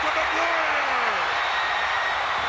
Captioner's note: applause